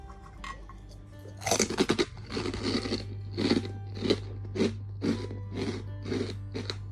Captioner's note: this is the actual chewing sound